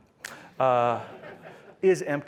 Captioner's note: laughter